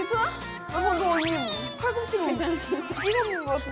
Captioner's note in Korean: 뿌엥 나 놀래쪄